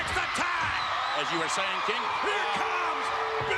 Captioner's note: spectators cheering